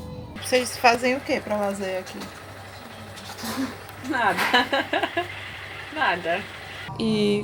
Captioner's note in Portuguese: Risos